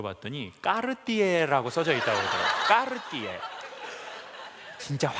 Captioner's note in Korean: 웃음